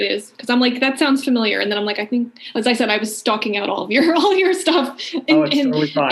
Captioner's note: laughing